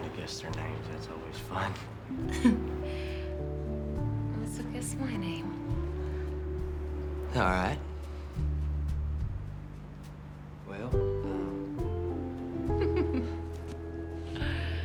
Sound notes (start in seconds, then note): 2.2 chuckling; 12.7 giggles